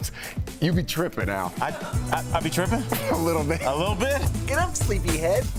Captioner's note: laughter